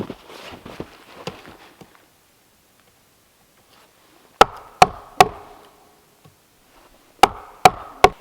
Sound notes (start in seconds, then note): 4.4 mallet thumping